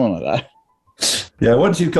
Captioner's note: laughing